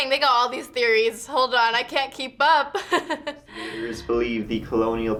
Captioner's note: laughs